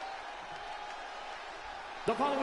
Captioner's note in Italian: Applauso